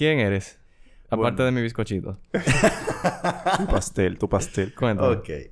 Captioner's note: laughs